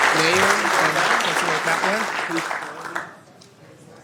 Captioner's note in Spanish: Aplausos